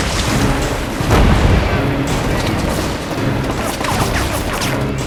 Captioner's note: men Shouting In Spanish